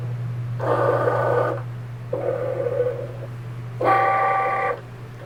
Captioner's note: machine whirring